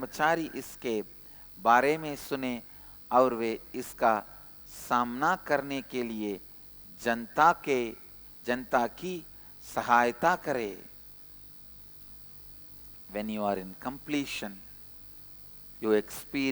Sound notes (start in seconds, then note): 6.1 hindi